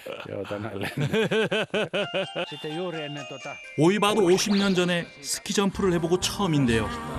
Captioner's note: laughter